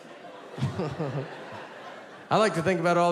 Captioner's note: chuckles